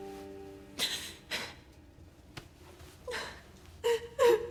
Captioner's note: Cleopatra sobbing